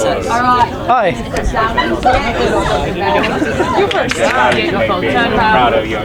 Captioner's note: people chattering